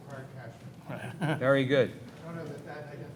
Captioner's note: chuckles